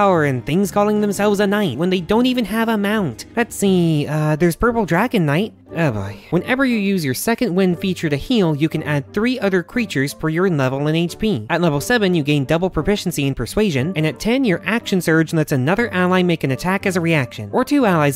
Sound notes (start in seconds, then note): 5.5 sigh